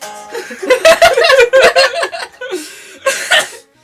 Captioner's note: goblin children laughing again